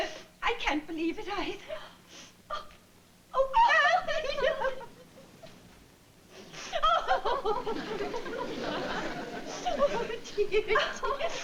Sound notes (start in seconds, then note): 3.4 crying